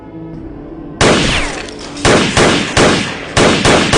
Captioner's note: guns firing